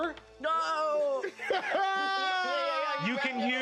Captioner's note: laugh-exclaims